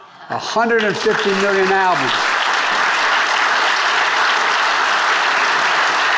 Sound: attendees applauding

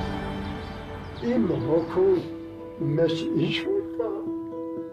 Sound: hopeful music; man speaks Armenian

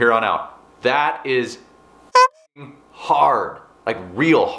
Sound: beep

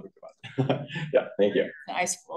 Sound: chuckling

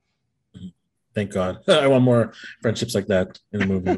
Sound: laughs

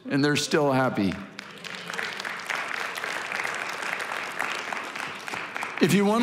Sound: congregation applauding

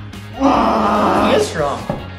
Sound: groans

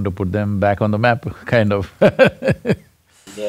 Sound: laughs

